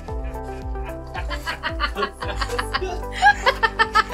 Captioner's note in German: herzliches Lachen